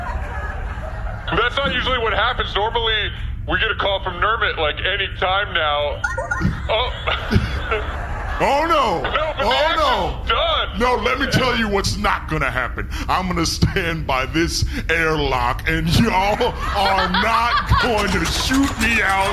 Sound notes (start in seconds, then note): 6.0 call beeps; 17.8 charges sex gun, airlock opens